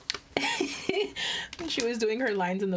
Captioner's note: laughing